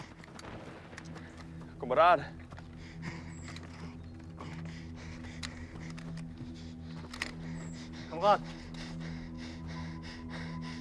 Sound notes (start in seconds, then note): 1.2 soldier speaks in German; 7.0 officer speaks in German